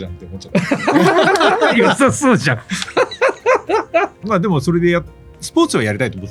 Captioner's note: laughs